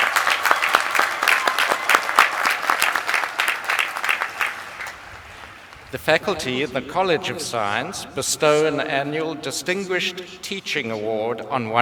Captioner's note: applause